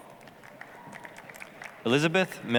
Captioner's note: applause